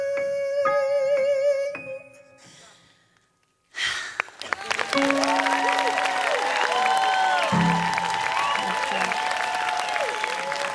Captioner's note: exhales; whooping, applause